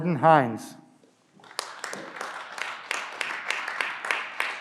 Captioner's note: clapping